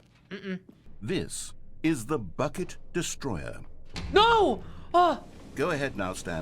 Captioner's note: machine whirring; gasps